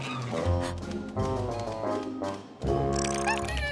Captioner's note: gasps; humming